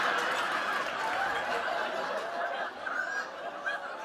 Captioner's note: laughter